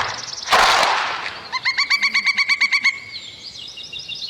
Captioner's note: animals chirping